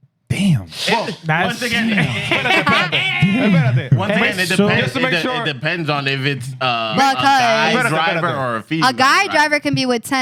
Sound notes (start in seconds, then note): 3.4 laughter